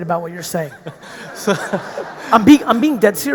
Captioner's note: audience laughing